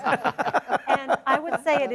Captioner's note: all laughing